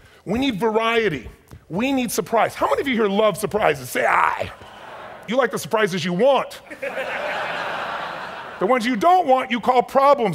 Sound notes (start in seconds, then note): 6.5 audience laughs